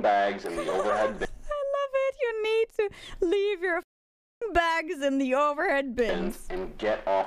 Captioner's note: laugh